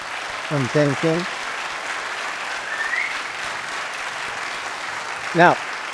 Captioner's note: applause